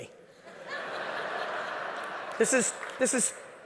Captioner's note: audience laughing